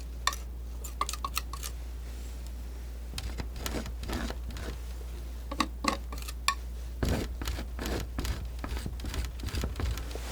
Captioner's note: scratching